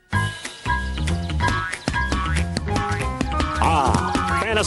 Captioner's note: boinging